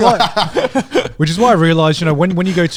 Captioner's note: group laughs